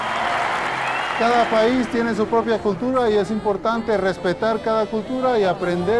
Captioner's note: audience cheering; speaking Spanish